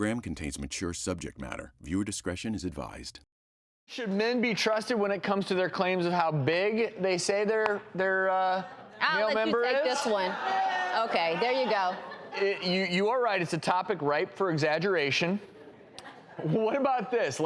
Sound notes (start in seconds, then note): 10.0 audience cheers